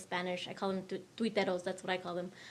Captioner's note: speaks in foreign language